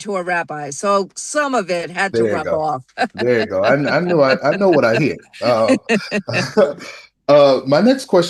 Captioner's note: laughter